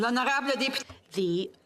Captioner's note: speaking French